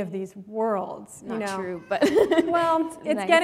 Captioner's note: chuckle